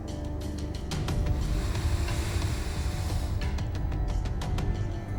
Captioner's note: biker sniffing